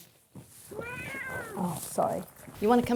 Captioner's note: cat sharply meowing